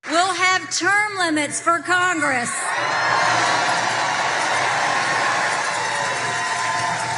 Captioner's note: applause